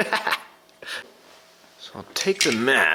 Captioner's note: laughter